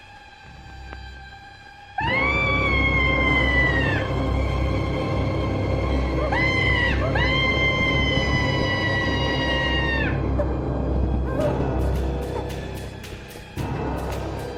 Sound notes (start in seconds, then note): 2.0 Barbra screaming; 2.0 sinister music; 6.1 Barbra screaming; 11.4 suspenseful music